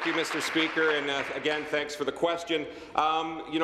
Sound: applause

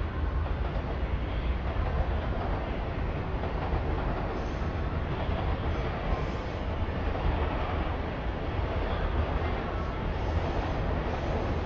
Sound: train Noises

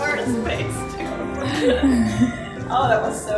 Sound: laughter

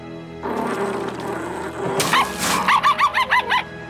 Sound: barking

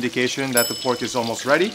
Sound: bell dinging

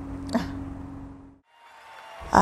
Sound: laughs; crowd cheering

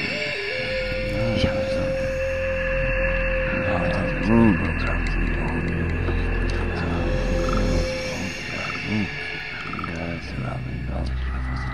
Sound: people moving and talking

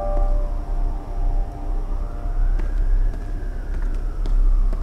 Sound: distant sirens

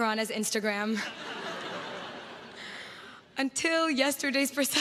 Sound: crowd laughs

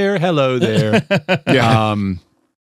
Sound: laughter

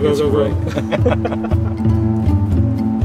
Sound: laughter

